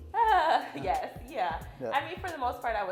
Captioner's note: laughs